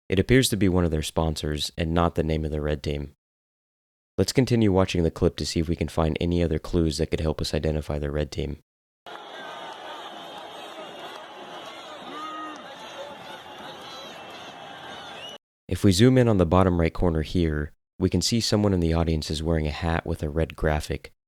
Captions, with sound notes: It appears to be one of their sponsors, and not the name of the red team. Let’s continue watching the clip to see if we can find any other clues that could help us identify the red team. (Crowd Cheering) If we zoom in on the bottom right corner here, we can see someone in the audience is wearing a hat with a red graphic.